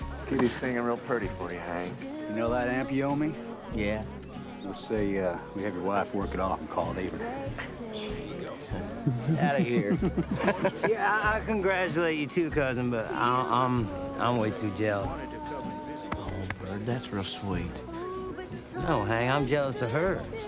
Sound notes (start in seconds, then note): 8.9 laughing